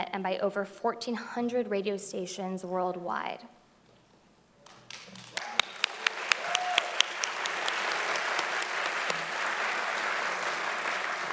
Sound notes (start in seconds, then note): 4.6 audience applauding loudly